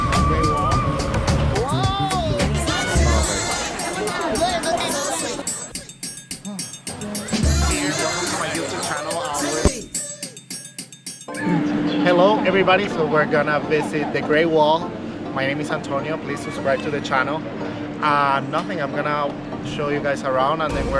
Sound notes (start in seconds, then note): 2.6 speaking foreign language; 2.6 upbeat music